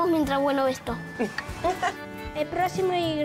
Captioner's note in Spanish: risas